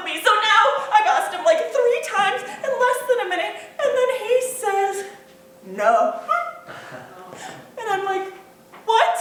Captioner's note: other character gasps